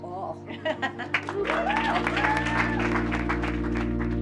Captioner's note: applause